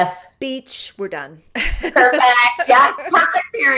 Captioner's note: laughter